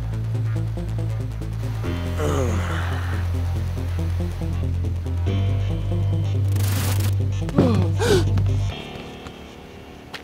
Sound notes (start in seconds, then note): 2.1 Toro groaning; 6.3 gloves crackling with energy